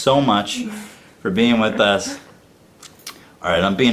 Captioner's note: laughs